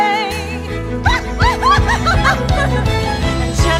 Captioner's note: squealing